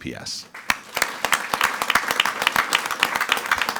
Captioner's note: all applauding